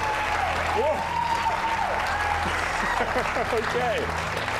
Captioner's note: laughs